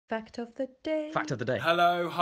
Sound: voiceover

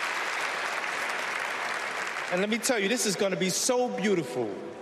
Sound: cheers and applause

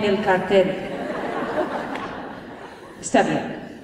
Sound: laughter

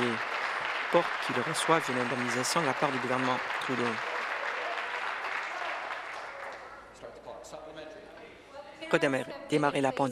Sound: applause

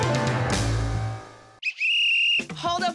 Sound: whistle blowing

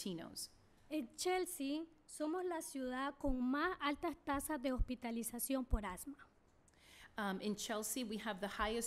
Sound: speaking spanish

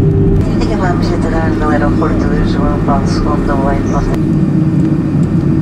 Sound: flight attendant speaking foreign language

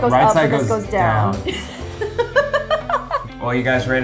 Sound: laughing

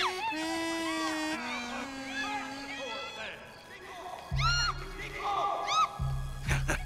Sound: <i> tenants still screaming</i>

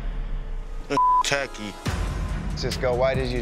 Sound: beep

